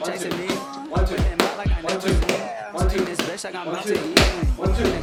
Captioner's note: man counting punches